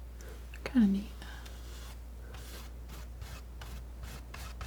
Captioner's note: scratching